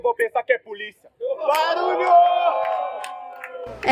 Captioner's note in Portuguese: barulho da plateia ao fundo